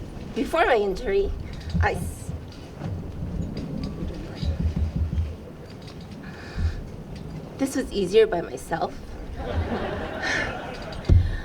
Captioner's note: laughs